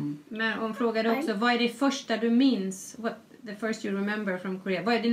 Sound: foreign language

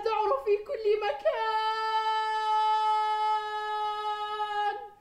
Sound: crying out

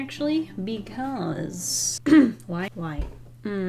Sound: clears throat

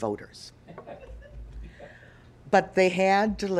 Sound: audience chuckling

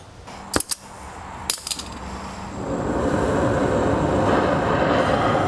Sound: flame whooshing

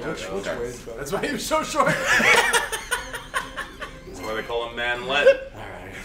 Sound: laugh

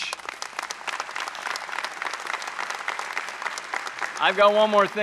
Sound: audience clapping

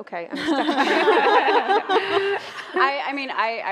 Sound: laughter

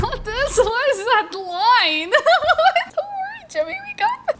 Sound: laughs

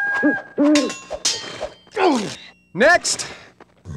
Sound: swords clanging

